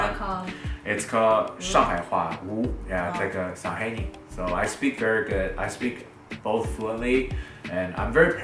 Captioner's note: Shanghainese